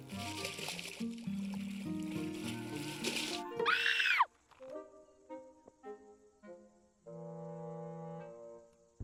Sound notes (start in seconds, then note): 3.6 screams